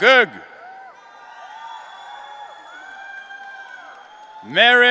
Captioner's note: audience cheering